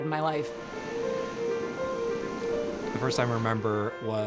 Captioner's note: waves whooshing